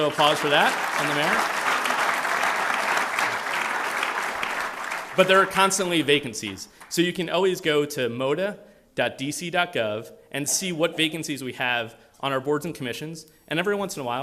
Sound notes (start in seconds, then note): 2.7 applause